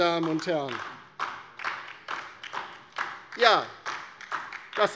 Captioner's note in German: Beifall DIE LINKE